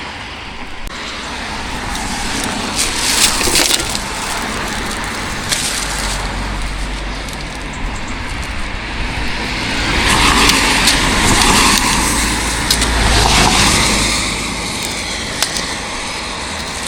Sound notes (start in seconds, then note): 3.4 road noise